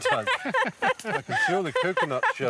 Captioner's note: laughing